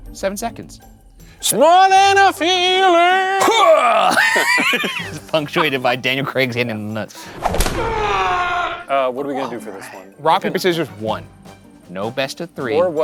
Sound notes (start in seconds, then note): 4.3 laughing; 7.8 grunting